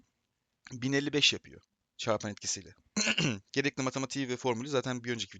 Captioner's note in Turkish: boğazını temizler